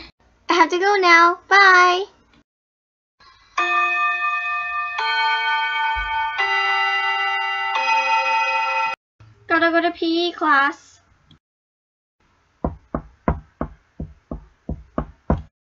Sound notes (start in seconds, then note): 3.5 school bell